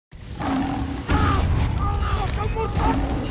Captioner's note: roaring